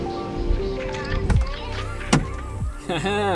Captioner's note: latch clicks